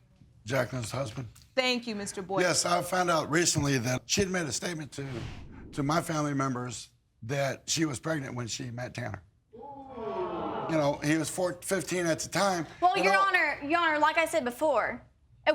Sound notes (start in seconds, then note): 9.8 audience gasping